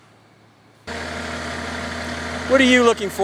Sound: machine buzzing distantly

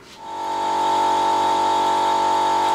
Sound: machine noise

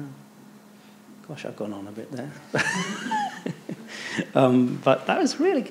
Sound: laughs

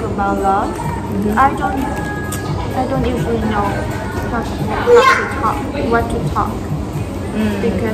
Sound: thở dài

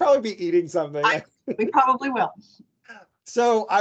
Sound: laughing

